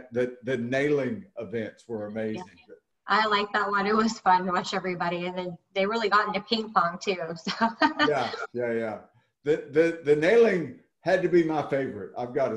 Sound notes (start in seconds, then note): 7.5 laughing